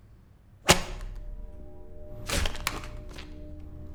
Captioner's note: paper cracks